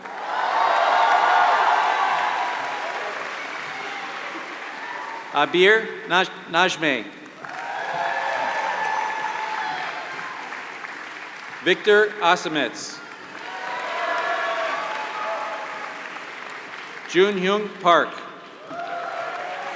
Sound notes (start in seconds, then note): 0.8 applause